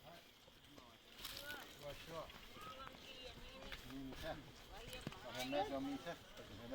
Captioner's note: villagers chattering in Yanomami